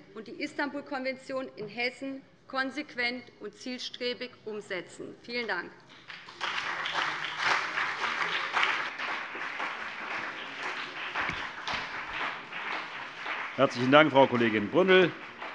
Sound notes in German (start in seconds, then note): 5.9 Beifall BÜNDNIS 90/DIE GRÜNEN und CDU